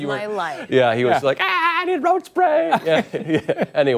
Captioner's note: laughter